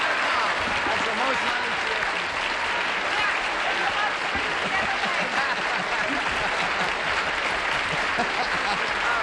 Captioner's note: applause; chatter, laughter